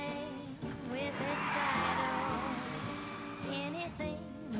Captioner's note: tires screeching